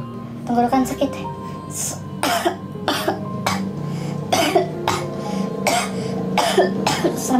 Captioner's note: cough